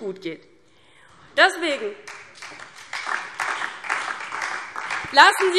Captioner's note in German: Beifall DIE LINKE und SPD